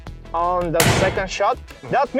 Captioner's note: gun shoots